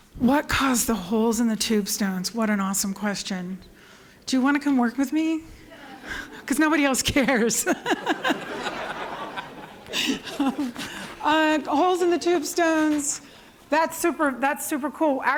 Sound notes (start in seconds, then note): 7.3 laughter